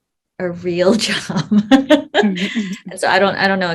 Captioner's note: laughs